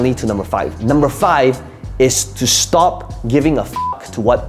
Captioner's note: beep